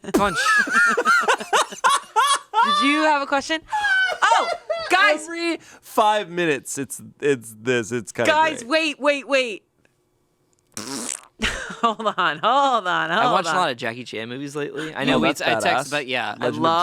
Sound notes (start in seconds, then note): 0.0 laugh; 10.7 imitates a fart